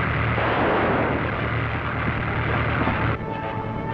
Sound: gun firing; dramatic music

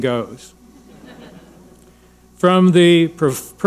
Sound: audience laughing

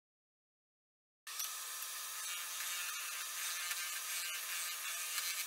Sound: lathe whirring

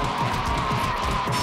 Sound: roaring and punching noises

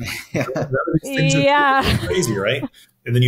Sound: chuckling

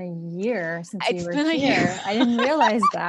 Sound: laughs

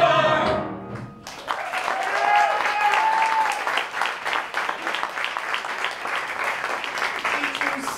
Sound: applause

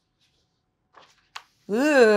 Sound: book page turns

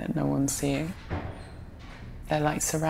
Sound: door closes

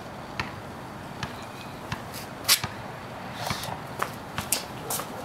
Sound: ball bouncing

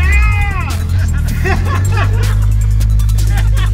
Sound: laughing

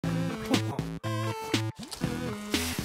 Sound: chuckles

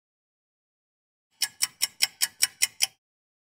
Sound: sound of a ticking clock

